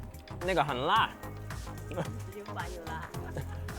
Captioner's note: speaking Mandarin